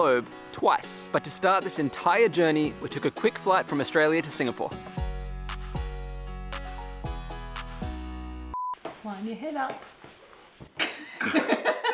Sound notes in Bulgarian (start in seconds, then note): 10.8 Смях